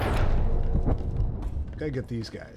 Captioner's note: gunshots